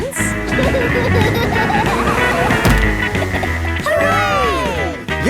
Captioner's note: laughing